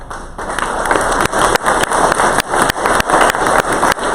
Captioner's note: crowd applause